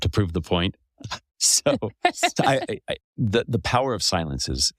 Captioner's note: laugh